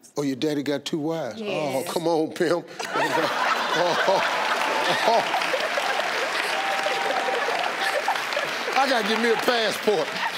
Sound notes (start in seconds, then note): 2.8 women laughing; 3.0 audience cheering